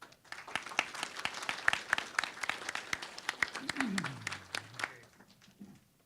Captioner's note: applause